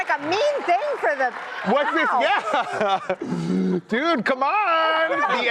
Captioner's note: laughter